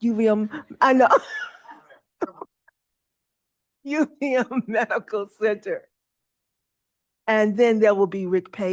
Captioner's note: laughs